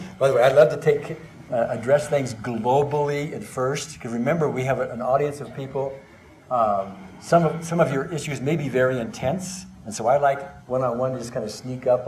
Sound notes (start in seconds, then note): none